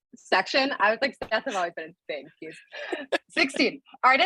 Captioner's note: laughter